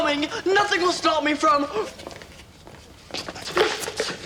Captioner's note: gasps